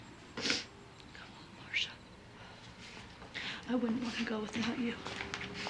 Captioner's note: sobbing